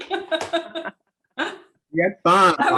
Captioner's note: chuckles